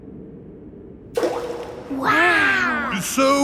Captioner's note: rock plops